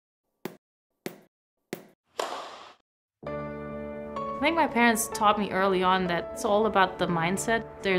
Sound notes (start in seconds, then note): 1.0 tennis ball bouncing; 2.1 tennis racket thwacking; 3.2 gentle music